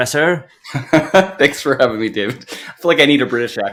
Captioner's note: chuckles